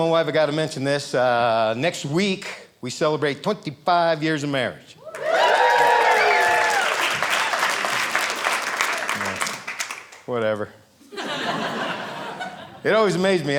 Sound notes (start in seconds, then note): 5.0 audience cheering; 11.1 audience laughing